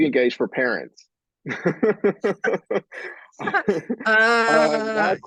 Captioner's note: laughter